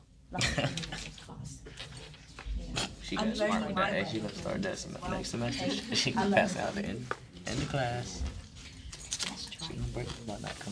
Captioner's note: students murmur